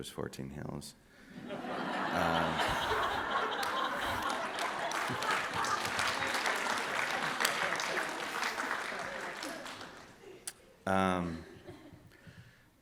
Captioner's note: laughter and Applause